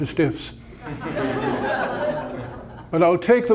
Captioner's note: audience laughter